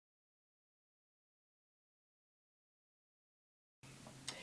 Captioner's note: silence